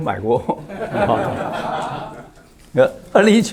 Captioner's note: laughs